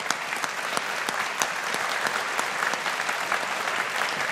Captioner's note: audience applauding